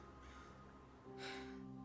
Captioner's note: sighing